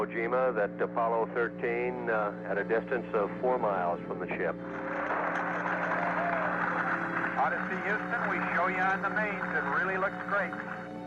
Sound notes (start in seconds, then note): 4.7 applause